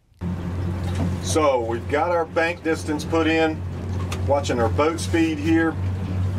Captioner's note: talking